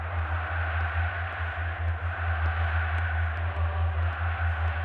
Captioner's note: cheering